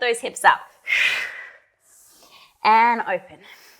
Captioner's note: breathing sharply